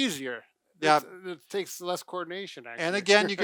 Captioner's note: laughs